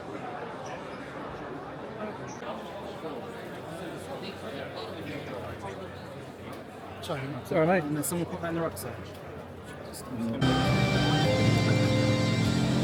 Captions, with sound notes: (Crowd Chattering) Sorry mate, sorry mate. And then someone put that in the rock side. (Dramatic Music)